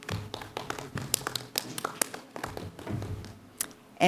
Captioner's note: clapping